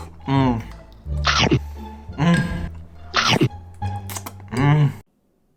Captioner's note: slurping noise